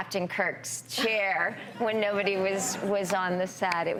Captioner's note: everyone laughs